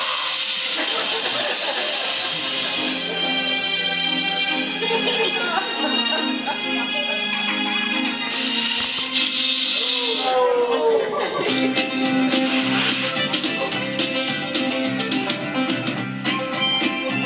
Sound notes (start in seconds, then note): 0.1 audience laughing; 9.1 chainsaw buzzes; 11.4 twangy country music